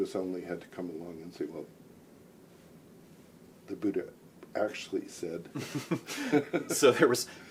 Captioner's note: laughing